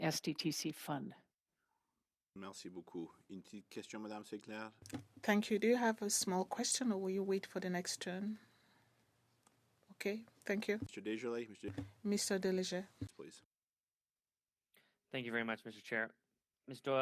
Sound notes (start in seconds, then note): 6.1 speaking French